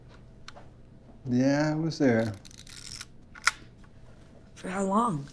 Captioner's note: camera gear turning